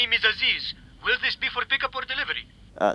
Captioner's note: phone